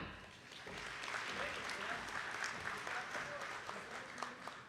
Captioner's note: attendees clapping